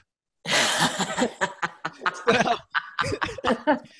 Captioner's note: laughing